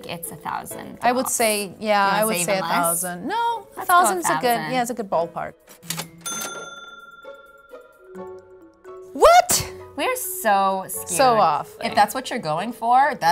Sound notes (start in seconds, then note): 5.8 cash register rings